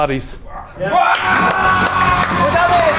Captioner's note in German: Jubel, Applaus